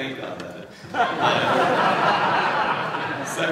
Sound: laughter

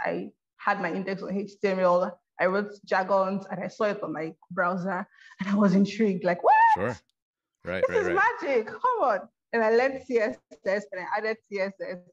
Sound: yelps!

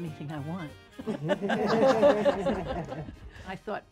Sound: ladies chuckling

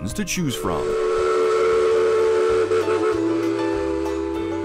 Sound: train whistling

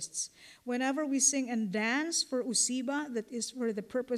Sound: non-english; non-english

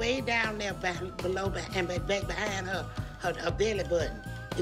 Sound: stuttering

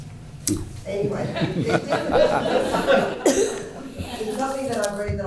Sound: all laughing

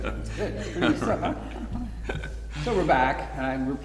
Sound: all laughing

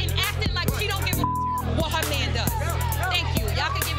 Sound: beep

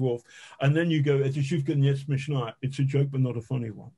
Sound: speaking in Russian again

